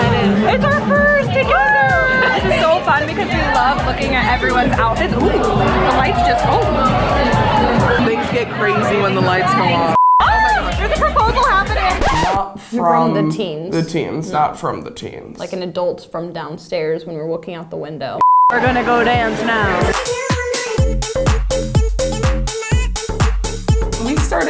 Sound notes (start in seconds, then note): 9.9 beep; 18.2 beep; 21.4 upbeat music